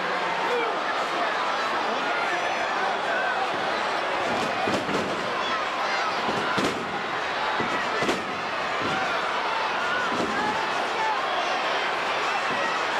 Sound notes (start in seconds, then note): 1.1 crowd chattering; 1.1 stage clattering